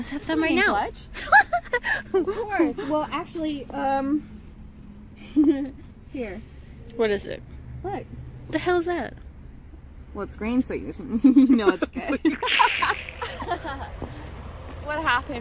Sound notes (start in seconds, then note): 1.1 Destiny laughs; 5.2 Shay giggles; 11.1 Shay and Destiny laugh; 11.2 Shay chuckles